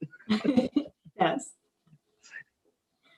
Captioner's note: laughing